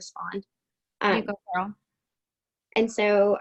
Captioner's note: speaking faintly